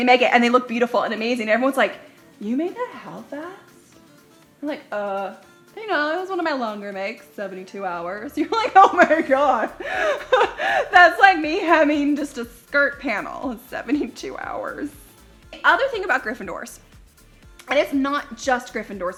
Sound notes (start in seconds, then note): 9.7 pretend sobbing